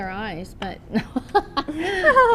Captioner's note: laughs